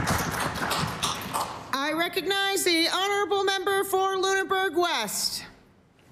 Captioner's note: applause